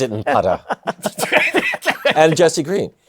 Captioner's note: laughter